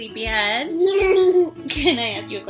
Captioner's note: laughing